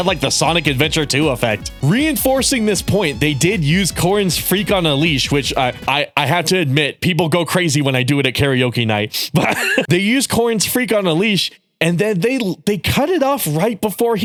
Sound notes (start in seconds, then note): 9.3 laughter